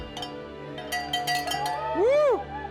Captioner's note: bell rings